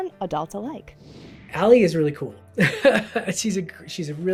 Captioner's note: laughs